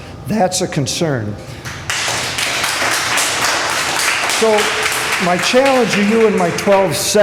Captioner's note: applause